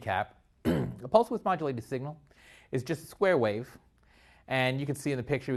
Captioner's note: cough